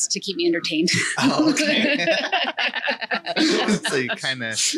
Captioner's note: laughing